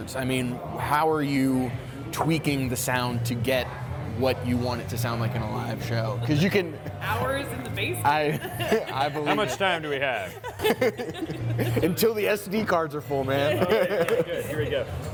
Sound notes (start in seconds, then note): 8.2 laughs